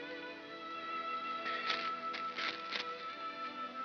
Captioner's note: paper rustles